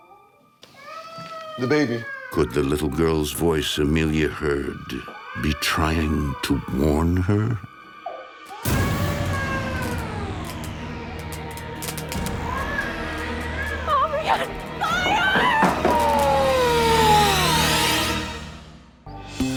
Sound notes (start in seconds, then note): 0.6 Chelsea crying; 11.2 tense music